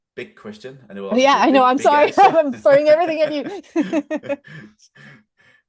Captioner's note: laughter